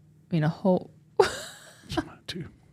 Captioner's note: laughs